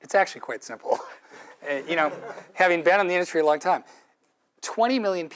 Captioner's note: laugh